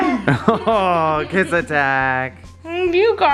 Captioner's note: laughs